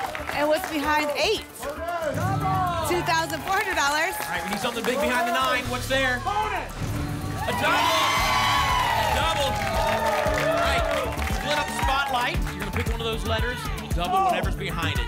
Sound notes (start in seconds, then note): 0.0 applause and cheering; 7.0 booms; 9.2 applause and cheering